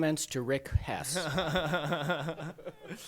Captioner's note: laughter